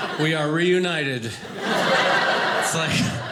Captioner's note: audience laughing